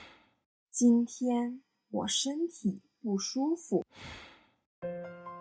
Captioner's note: sigh